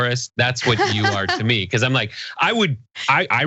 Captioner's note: laugh